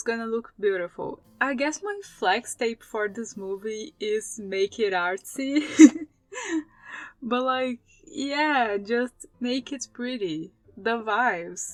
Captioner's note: laugh